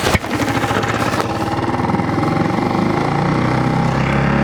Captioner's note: motor rumbles